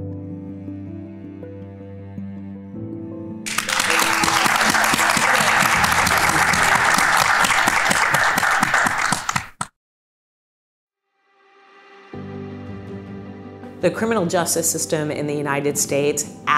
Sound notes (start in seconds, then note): 0.0 inspiring music; 3.4 audience clapping; 11.2 inspiring music